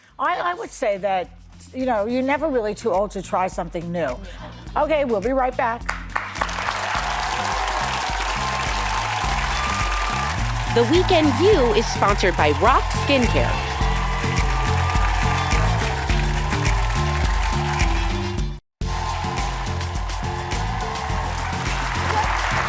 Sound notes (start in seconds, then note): 7.5 applause; 14.5 applause